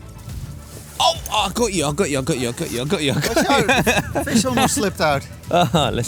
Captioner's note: laughs